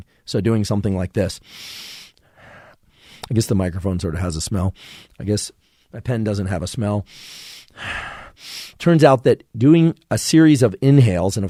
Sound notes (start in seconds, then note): 1.4 Andrew sniffs deeply; 4.9 sniffs; 7.0 Andrew sniffs deeply